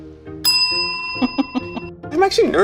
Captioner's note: bell dings; giggles